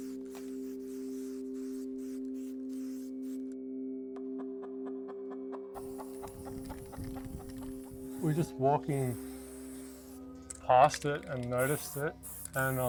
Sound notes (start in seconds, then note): 4.6 chickens cluck; 5.7 paint sprays